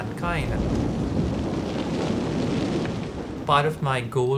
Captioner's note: wind roaring through flames